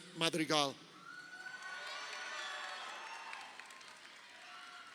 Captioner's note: crowd cheering